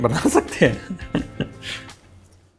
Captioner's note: laughs